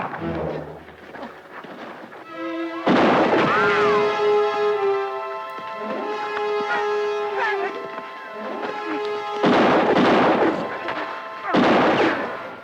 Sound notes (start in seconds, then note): 2.9 gun fires; 2.9 bullet ricochets; 9.5 guns fire